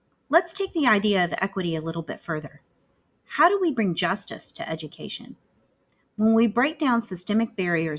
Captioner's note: click